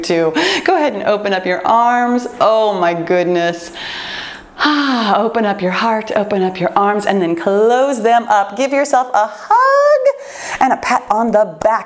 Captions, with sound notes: to go ahead and open up your arms. Oh my goodness, [breathes] open up your heart, open up your arms and then close them up. Give yourself a hug and a pat on the back.